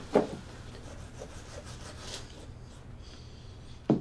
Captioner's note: knife sawing